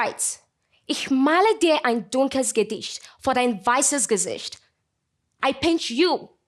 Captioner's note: speaking in German